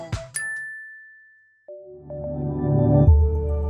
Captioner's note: chimes ringing